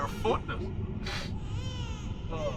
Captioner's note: babies crying